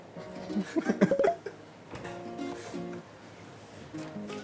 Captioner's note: both laugh after the question